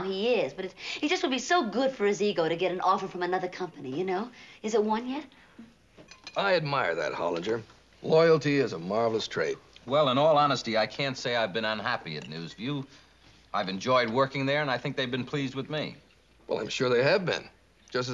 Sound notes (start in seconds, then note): none